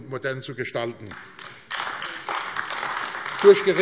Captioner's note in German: Beifall AfD